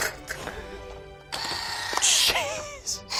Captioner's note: beater whirring